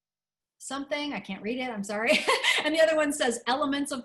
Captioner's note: laughter